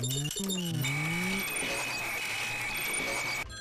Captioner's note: modem squealing